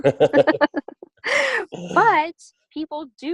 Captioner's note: laughter